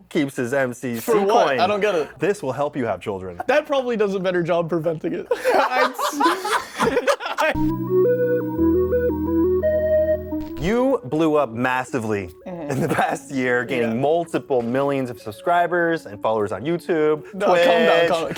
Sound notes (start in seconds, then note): 5.2 laughter